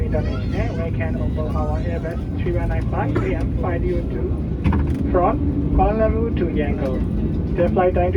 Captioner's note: cabin crew on PA, speaking English; cabin crew on PA, speaking English about flight info